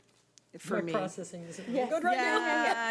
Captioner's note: overlapping chattering